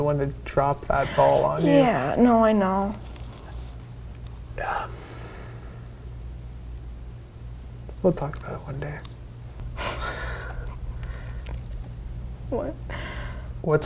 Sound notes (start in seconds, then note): 4.8 deep breath; 10.0 laughs